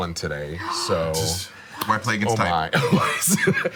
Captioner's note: gasping